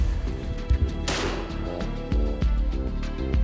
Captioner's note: bang!